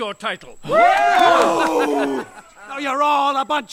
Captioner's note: Crowd cheers, Sherriff is despondent and angry